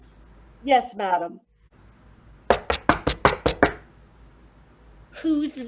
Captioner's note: knock at door